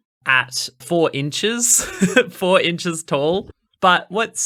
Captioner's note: laughing